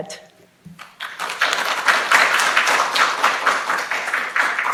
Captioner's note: students applauds